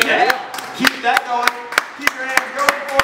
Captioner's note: applause